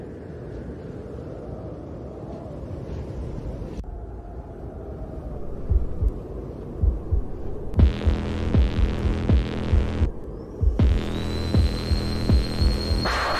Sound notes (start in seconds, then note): 6.8 heart beating